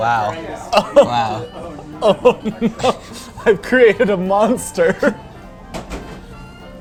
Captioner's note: laughs